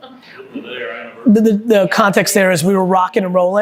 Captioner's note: group murmuring